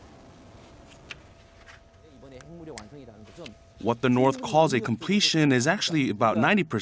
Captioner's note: Korean